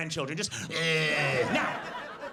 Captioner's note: heavy breathing